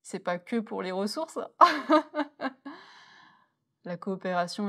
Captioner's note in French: rires